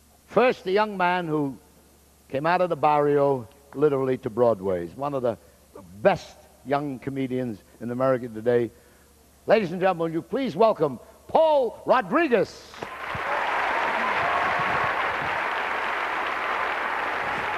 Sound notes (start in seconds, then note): 12.8 cheers